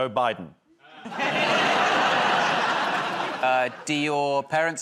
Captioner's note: laughter